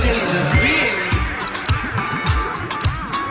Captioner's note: phone dinging; funk music